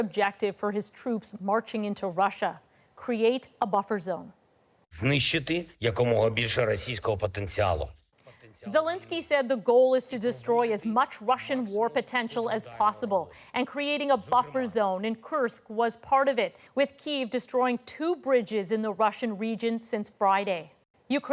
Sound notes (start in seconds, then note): 9.5 speaking alternate language